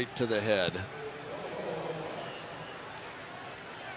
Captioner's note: announcer on pa